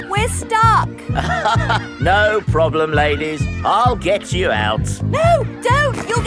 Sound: chuckles

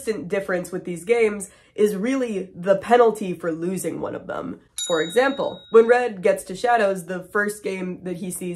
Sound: ding

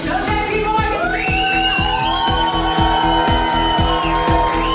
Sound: cheering

